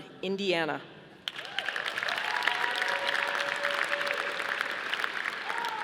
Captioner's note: audience applauding